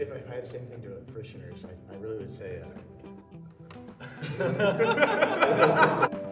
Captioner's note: joking, laughing